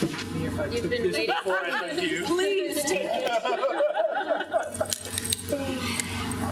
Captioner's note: people laughing